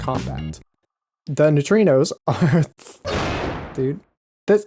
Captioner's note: crash sound; pause, crash sfx